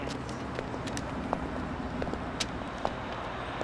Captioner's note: none